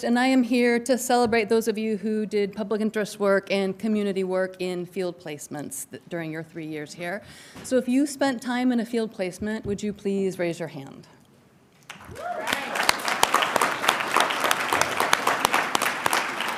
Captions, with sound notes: and I am here to celebrate those of you who did public interest work and community work in field placements during your three years here. So if you spent time in a field placement, would you please raise your hand? (audience applauding)